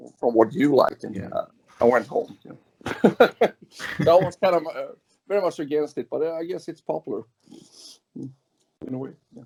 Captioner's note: laughs